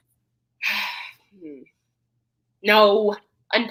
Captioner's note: Tyra sighs